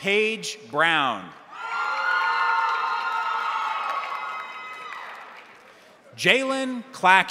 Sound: crowd cheering; crowd applauding

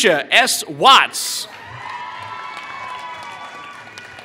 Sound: applause

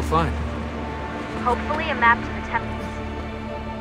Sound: Lucy through radio

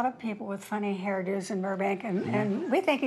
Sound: audience laughter

